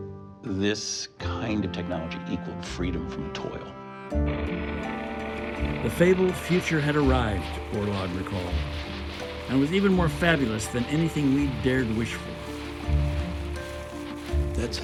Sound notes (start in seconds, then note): 4.5 tractor rumbling